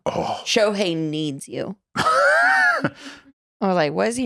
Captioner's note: laughs